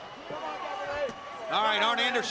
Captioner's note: crowd clamoring